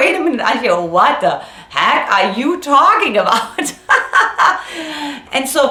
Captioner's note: laughs